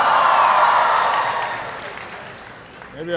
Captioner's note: applause